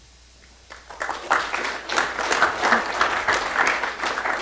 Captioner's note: applause